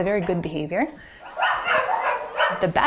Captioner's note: dogs barking